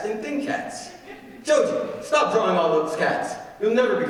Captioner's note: audience laughing